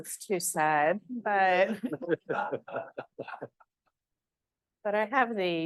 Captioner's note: all chuckling